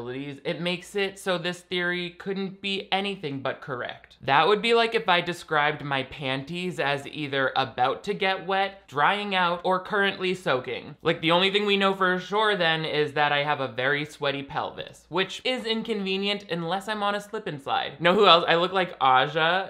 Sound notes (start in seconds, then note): none